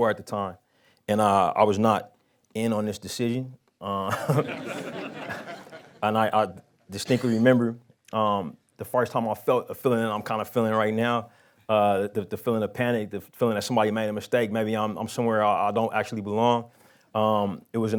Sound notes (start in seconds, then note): 4.1 laughs